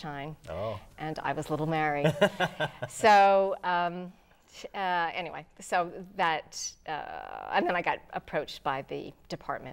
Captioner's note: laughing